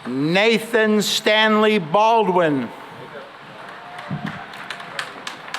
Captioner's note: applause